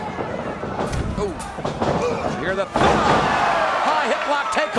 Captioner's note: body thuds